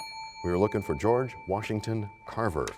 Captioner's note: bell rings, time expires